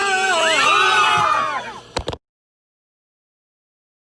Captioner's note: all screaming; car honking